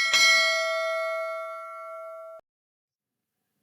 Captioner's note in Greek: καμπανάκι